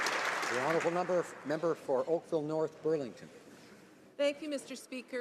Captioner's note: applause